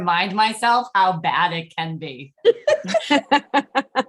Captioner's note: laughter